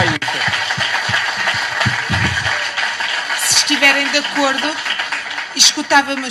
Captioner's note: cheers